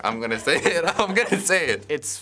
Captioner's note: laughs